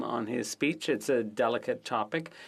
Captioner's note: speaking French